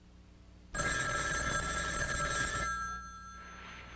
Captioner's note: phone ringing